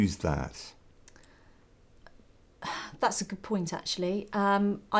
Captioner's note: sigh